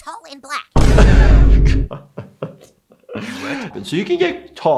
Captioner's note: laughs